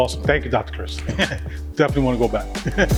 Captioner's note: laughing